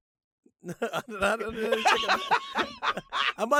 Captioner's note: laughs